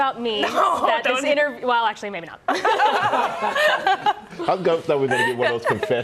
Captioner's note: laughter